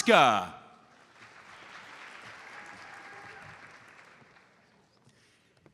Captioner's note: audience applauds